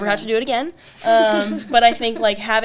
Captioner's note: laughs